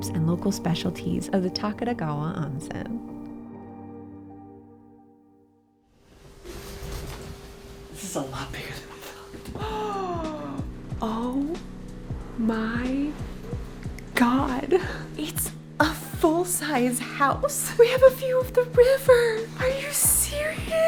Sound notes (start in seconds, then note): 9.8 gasps